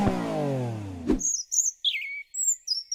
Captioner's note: birds singing